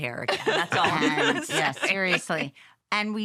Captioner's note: laughter